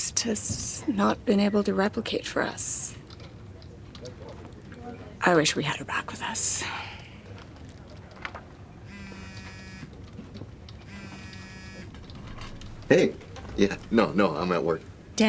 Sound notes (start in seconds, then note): 7.9 cell phone buzzing